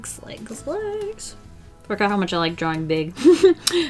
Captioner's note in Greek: Γέλια